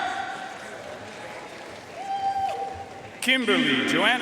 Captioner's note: audience cheering and applauding